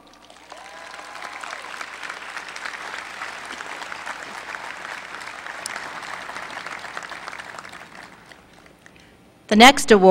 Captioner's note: applause